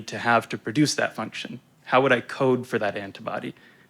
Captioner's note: none